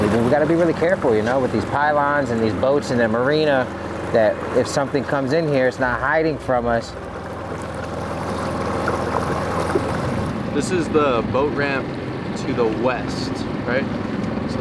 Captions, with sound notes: We gotta be really careful, you know, with these pylons and these boats in the marina, that if something comes in here, it's not hiding from us. (engine droning) (gentle music) - This is the boat ramp to the west, right?